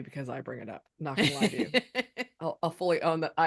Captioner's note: chuckles